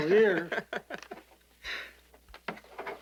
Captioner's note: laughing